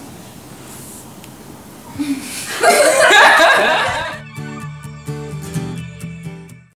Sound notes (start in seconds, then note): 2.1 laughter